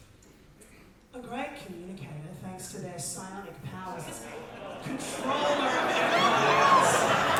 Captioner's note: audience sounds of recognition